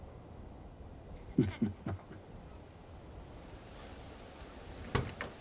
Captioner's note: Bill chuckles